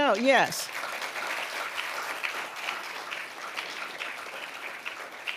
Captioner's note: audience applauding